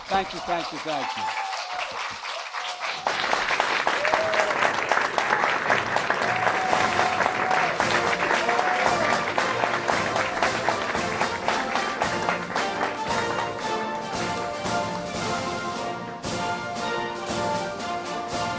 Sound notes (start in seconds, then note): 6.4 applause